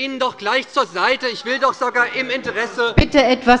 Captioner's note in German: Anhaltende Zurufe